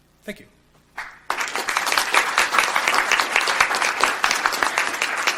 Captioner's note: audience applauds